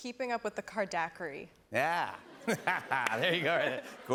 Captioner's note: laughs